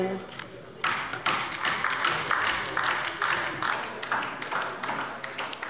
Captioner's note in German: Beifall bei der LINKEN